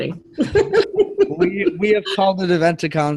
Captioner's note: laughing